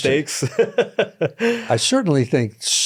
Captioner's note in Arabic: يضحك